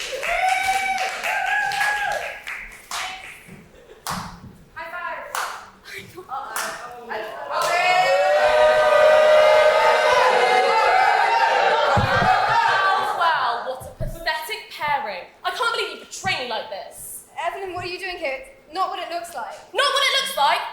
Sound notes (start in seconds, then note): 0.0 slow clapping; 7.5 audience: "BOOOOOOOO"